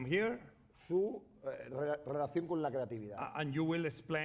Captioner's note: speaking spanish